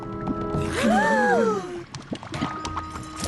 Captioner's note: all gasp